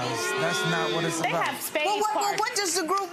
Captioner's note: gallery boos